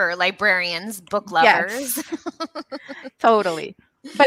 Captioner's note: laughs